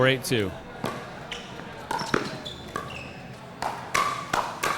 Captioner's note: ball clacking